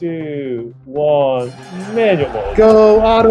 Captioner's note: bell ringing